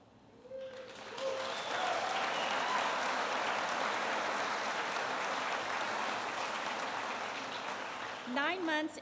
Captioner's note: applause